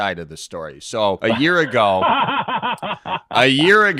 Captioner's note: laughing